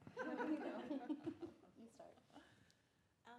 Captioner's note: audience laughs